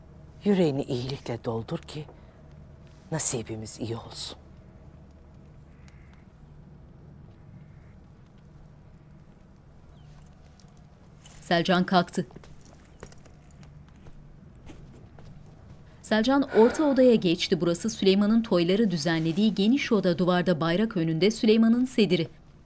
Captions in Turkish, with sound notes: ...yüreğini iyilikle doldur ki nasibimiz iyi olsun. (Ayak sesleri) (Nefes sesi)